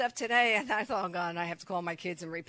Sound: chuckles

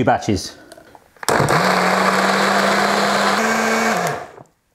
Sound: blender whirs

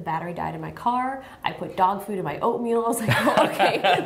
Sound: laughter

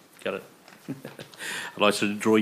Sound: chuckles

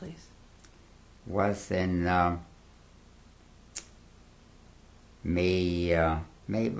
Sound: pauses for 3 seconds

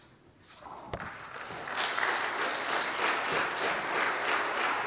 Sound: audience applauds

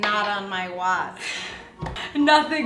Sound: laughs

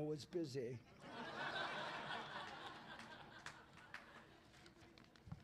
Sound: laughter

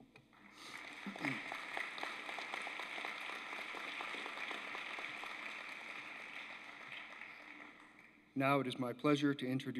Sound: applause

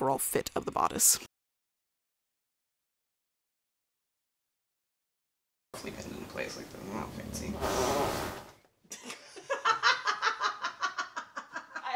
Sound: dog toots loudly

